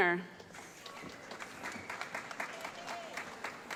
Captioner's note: applause